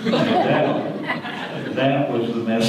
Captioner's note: audience laughter